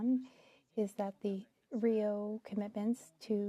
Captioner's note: speaking French